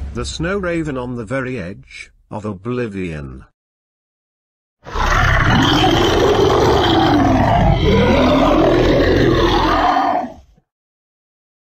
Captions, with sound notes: The SnowRaven on The Very Edge of OBLIVION! (Monster Roaring)